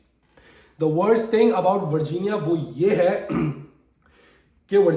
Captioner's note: sound of clearing throat